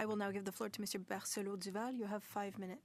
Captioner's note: speaking in French